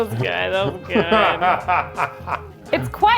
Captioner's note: laughs